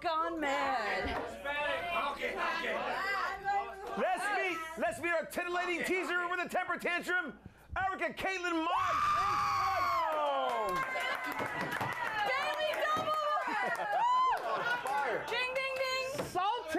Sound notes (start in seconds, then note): 2.6 audience shouts answers; 12.4 audience cheers